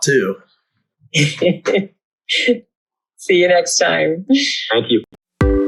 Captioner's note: laughs